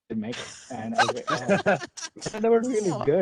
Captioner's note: laughter